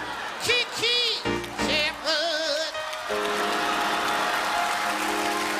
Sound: audience laughing; audience applauding; charming music

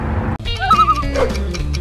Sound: loon call

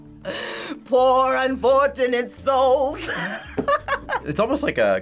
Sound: laughs

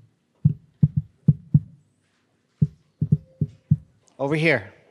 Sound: drumming on table

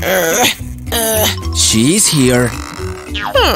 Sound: grunting

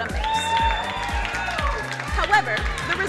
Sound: crowd cheering and applauding

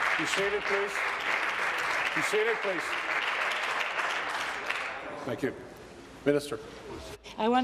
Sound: applause

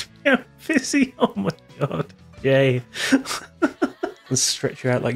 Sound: laughter

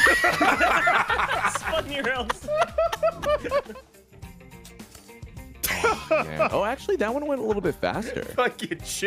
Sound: laughs

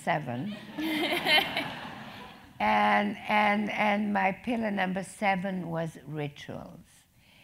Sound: laugh

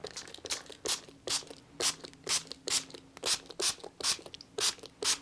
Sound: bottle spraying

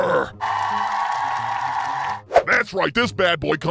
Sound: ovation from the crowd

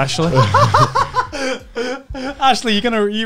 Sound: laughing

